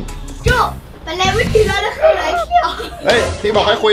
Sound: speaking in tribe language

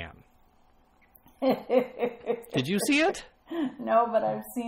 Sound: laughs

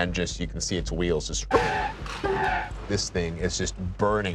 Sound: screeching

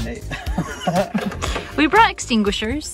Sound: laughs

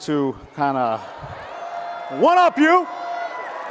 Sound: audience cheers

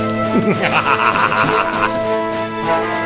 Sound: maniacal laugh

